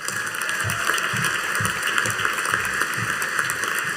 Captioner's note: audience applauding